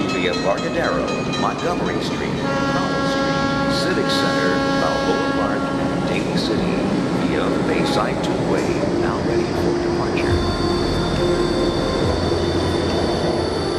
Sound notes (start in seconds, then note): 2.6 horn honking; 4.0 indistinct chatting; 11.1 tense music